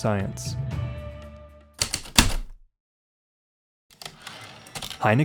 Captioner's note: typewriter clicks and slide